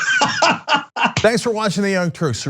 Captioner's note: laugh